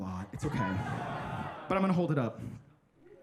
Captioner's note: audience laughing